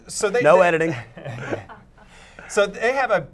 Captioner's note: laughing